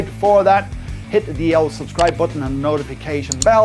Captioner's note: clicking